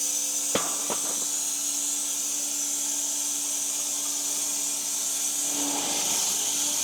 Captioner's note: log saw whirring; wood clanging